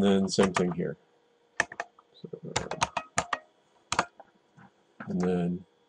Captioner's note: typing